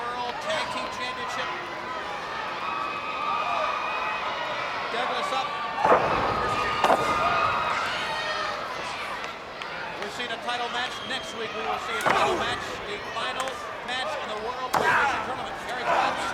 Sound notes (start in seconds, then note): 3.4 crowd cheering; 5.8 body thudding; 14.1 hands clapping